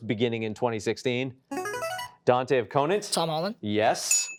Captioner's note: buzzer chimes